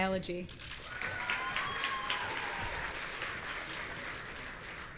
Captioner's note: audience cheering